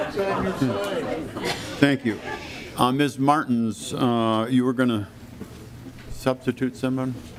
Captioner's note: lauging